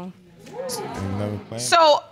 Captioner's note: audience exclaims